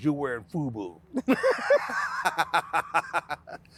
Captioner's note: both laughing